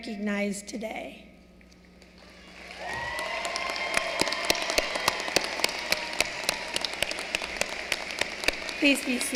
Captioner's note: applause